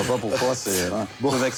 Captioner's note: laughter